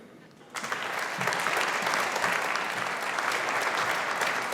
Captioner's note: audience applauding